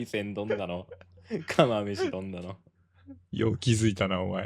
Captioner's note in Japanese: 笑い